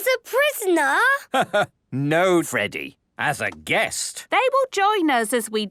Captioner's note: laugh